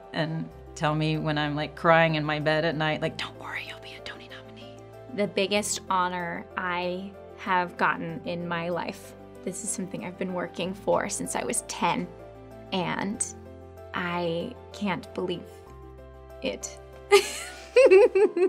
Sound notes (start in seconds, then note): 17.8 laughs